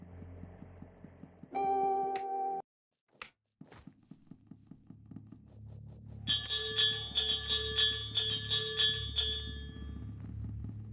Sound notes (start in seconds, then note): 1.5 soft music; 4.1 bell ringing